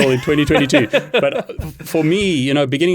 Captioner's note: laughs